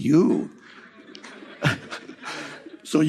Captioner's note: publicul râde